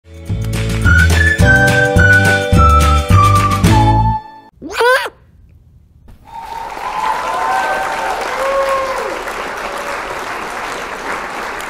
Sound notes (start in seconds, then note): 4.3 bird squawk; 6.2 crowd cheering